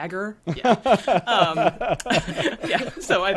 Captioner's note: all laughing